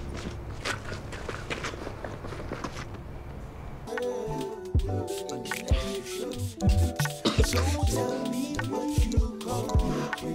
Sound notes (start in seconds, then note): 0.0 Kevin and friends running; 3.8 relaxing rhythmic music; 5.0 cologne spraying; 7.0 Kevin coughing